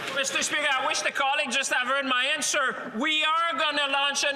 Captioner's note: some Applause